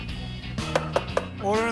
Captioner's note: tapping